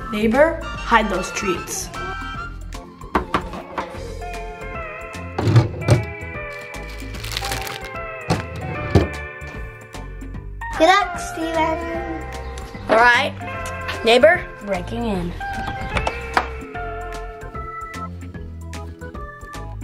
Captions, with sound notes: - Neighbor, hide those treats. (clacking) (drawer opens and shuts) - Good luck, Steven. - Alright. Neighbor, breaking in. (upbeat music)